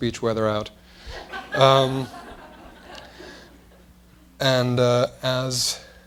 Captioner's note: laughter